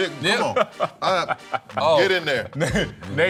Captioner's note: laughing